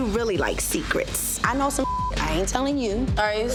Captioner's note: beep